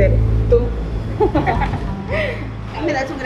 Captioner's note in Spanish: risas